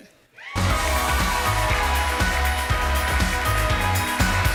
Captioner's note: cheering and applause